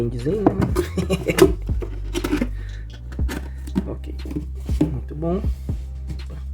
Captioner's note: laughs